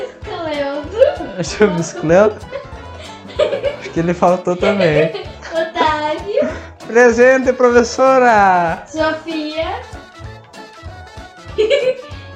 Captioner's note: Risadas